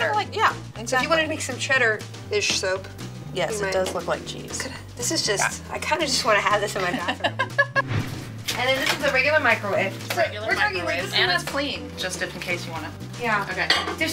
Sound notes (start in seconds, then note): 6.8 laughter